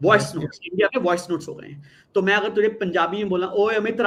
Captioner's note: non-english speech